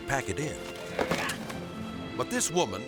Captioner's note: glider moaning